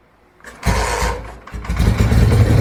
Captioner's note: engine puts a few more times; engine takes off running